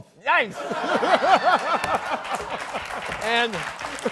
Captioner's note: laughter